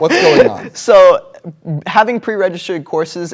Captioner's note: laughter